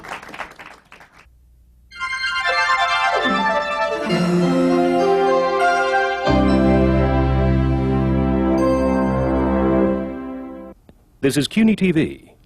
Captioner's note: applause